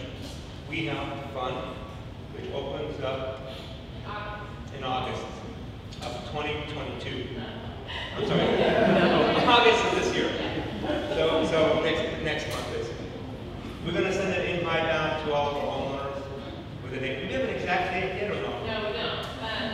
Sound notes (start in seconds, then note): 8.1 audience laughing